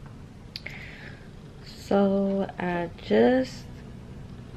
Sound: none

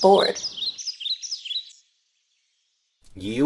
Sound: birds

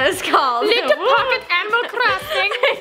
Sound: laughter

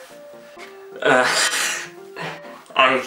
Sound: nervous laugh

